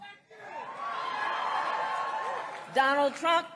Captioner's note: crowd cheers